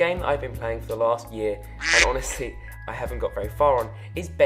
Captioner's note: quacking